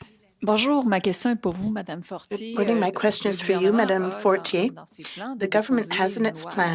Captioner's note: speaking French